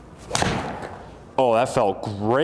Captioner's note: thud